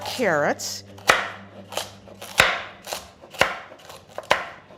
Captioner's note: chopping